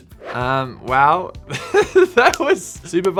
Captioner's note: laughing